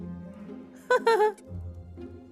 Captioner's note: laughing